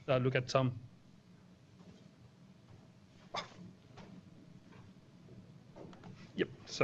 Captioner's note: pause